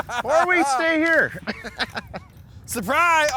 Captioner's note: laughs; voiceover